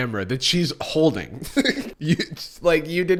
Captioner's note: laughs